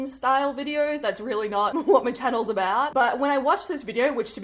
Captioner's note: chuckles